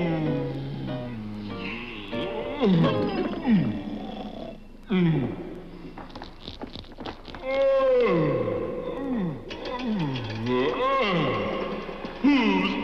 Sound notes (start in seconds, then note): 9.4 bike rattles